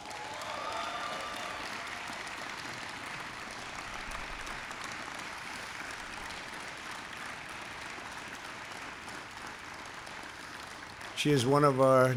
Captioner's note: applause